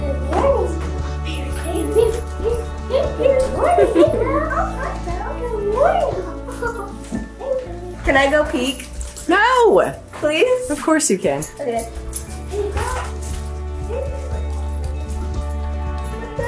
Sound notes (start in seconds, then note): 2.9 cheerful music; 5.0 children chatter excitedly; 12.7 cheerful music